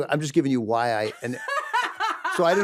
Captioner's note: laughs